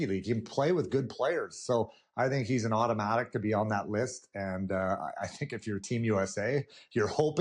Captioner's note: none